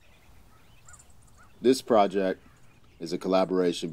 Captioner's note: birds chirping